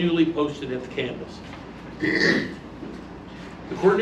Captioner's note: clears throat